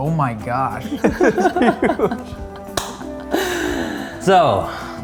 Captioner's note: men laughing